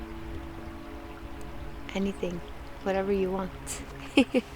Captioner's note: laughs